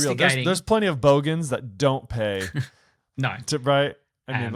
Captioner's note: chuckles